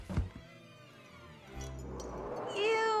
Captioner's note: loud thud